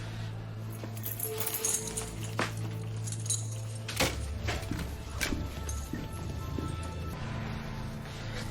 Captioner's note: rattling & footststeps